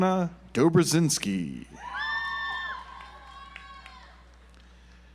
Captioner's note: audience applauds